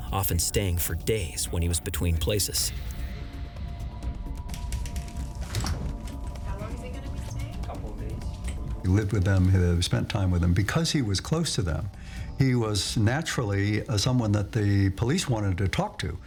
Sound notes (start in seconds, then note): 2.6 tense music; 5.4 door closing